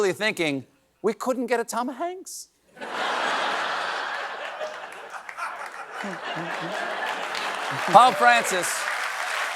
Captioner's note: laughter